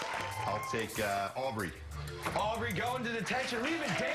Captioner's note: cheers and applause